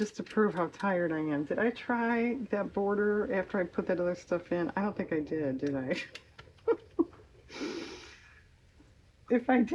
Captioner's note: laughs